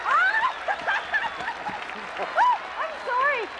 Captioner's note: Lisa cheering